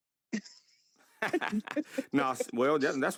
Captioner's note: both laugh